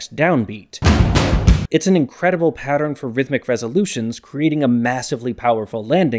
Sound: bang

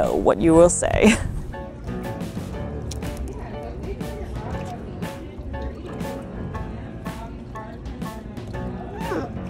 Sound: background music; background chatter; background music; sea otter vocalizes quietly

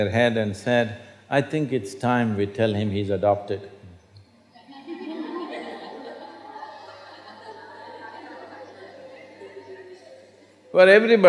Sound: laughter

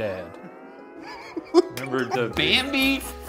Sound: laughing

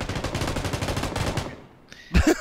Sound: M249 firing

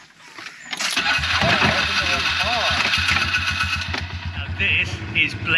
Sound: engine starting

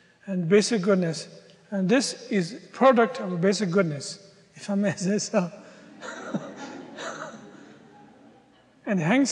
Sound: audience laughter

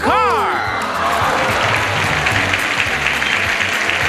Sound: audience applauding

